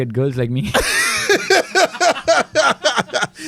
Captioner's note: laughs